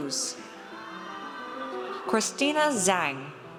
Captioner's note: audience cheers